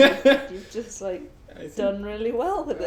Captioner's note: laughs